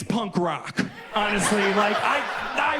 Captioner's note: audience laughs